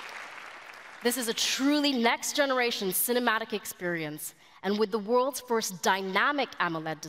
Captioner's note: applause